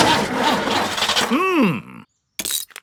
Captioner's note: engine sputtering